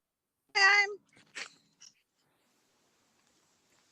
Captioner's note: audio cuts out